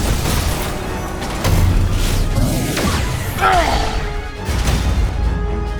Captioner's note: blast noises